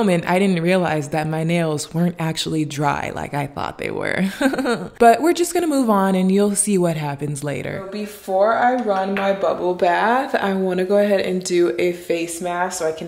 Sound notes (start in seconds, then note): 4.3 sadly laughs